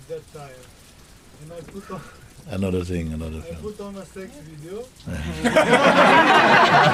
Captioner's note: laughter